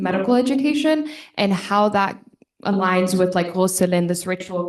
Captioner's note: speaking foreign language